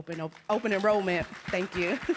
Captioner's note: applause; laughs